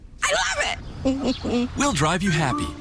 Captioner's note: laughs